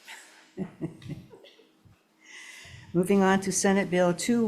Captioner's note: laughs